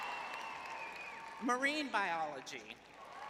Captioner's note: cheering